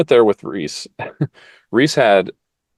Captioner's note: laugh